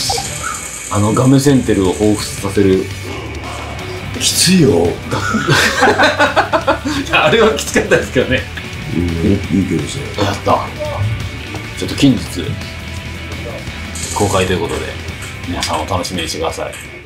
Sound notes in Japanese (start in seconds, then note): 5.0 笑い声